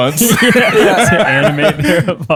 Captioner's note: laughter